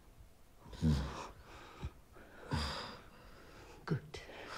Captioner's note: Tony moans